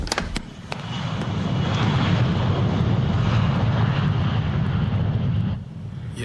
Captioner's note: plane engine roars